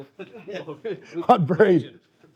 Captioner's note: laughing